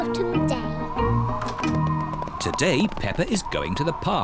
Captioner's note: wind blowing